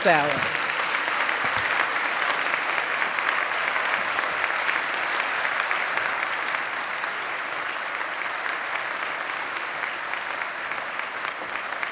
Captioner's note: applause